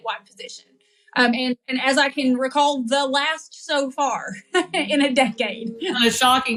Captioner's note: laugh